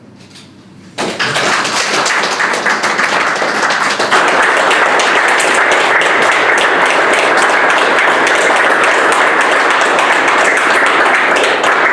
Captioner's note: applause